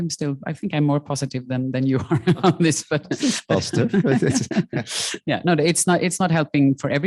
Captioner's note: chuckling